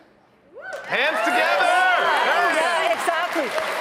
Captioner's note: audience applauding